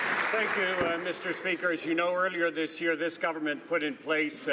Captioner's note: some Applause